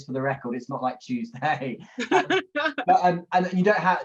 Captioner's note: laughs